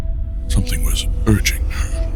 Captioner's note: void sounds, whispers